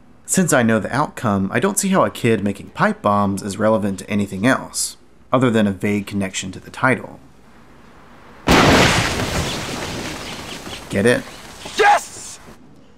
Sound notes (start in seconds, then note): 8.2 explosion